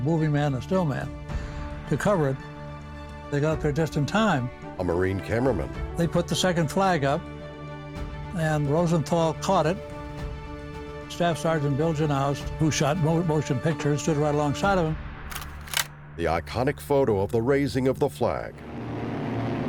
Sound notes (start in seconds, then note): 15.3 camera shutter clicks; 17.2 airplanes passing